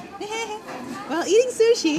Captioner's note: laughing